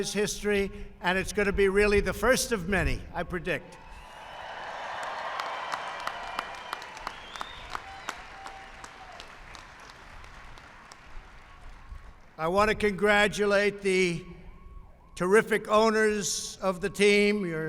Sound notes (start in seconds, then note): 4.2 applause